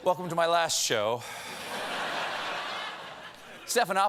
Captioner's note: laughter